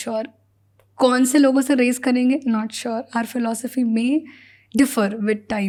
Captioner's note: speaks in Hindi